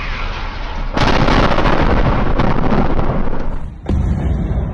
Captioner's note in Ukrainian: вибух